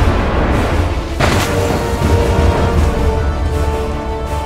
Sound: crashing; theatrical chanting

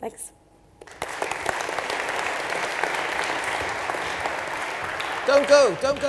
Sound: audience applauds

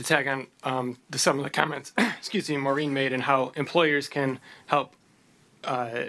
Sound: clears throat

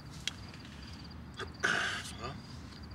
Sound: throat clearing

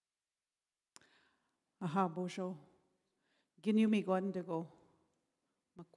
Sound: in Indigenous language for next 3 min

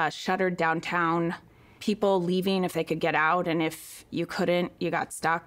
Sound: none

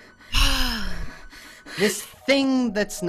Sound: sigh

